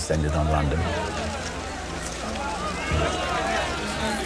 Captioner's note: loud chatter